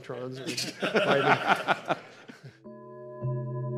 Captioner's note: audience laughing